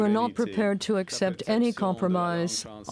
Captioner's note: speaking french